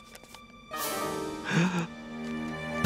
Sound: gasping

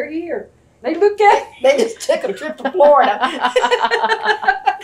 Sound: laughter

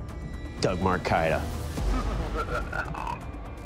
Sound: evil laughter

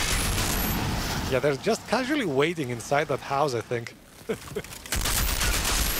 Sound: laughs

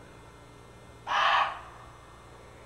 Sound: barks

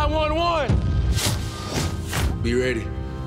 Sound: air whooshes

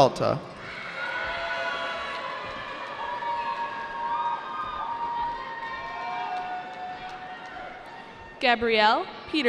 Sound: cheering

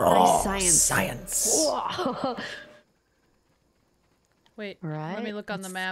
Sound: laugh

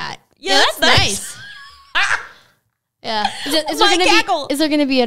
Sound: laughs

